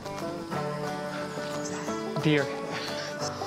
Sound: laughs

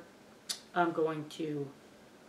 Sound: tongue click

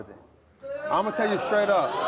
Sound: audience boos

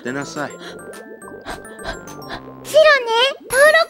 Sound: heavy breathing

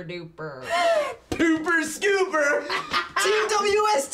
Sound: laughs

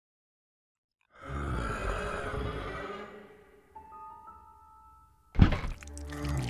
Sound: growling; stomping

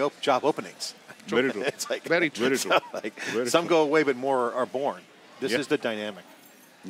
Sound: chuckling

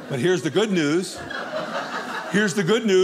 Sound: audience laughing

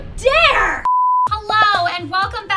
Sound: beep

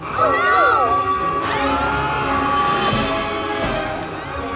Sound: alarm blaring

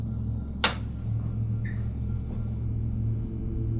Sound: clicking

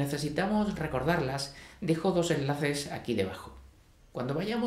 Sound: spanish

